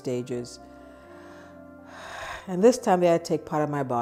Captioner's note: sighing